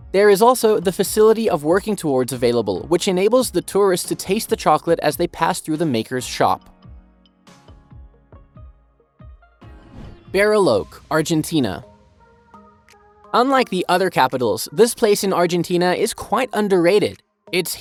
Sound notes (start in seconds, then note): 6.8 bright music continues; 9.7 air whooshing